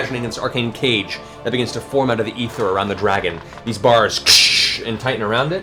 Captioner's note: crash